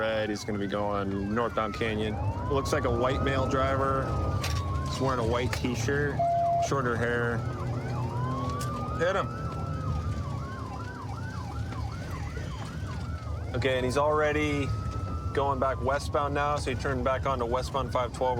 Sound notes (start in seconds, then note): 9.2 sirens wailing